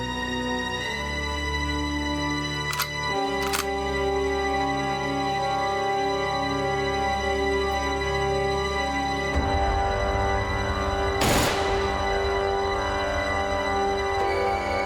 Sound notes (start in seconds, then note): 2.6 gun clicking; 11.2 gun firing